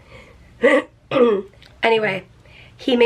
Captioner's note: clears throat